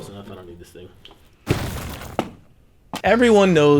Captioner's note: reverberating thud